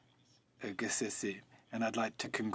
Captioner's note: speaking French